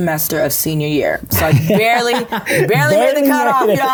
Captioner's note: laughing